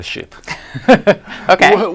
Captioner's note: laughter